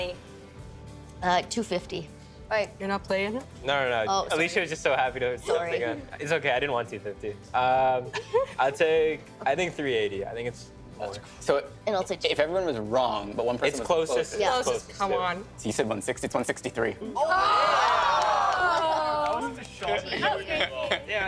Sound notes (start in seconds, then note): 17.2 all exclaiming; 19.0 chattering